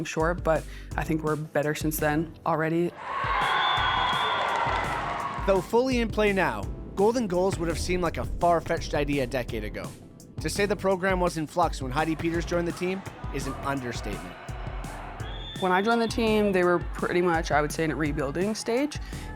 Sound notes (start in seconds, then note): 2.9 cheering; 3.4 whistle blows